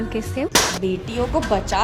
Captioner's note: smack